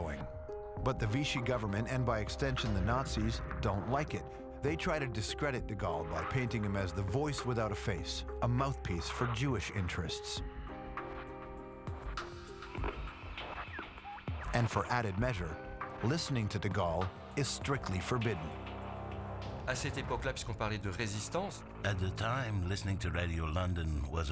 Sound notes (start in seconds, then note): 11.7 radio static